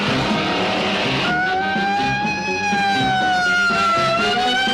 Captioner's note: engine revving; sirens blaring